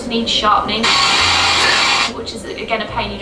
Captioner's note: pencil sharpener